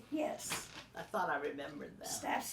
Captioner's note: pat